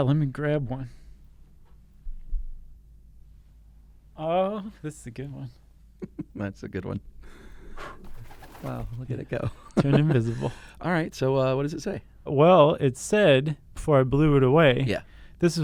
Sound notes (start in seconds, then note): 6.0 chuckling; 8.0 blowing; 8.0 bird wings flapping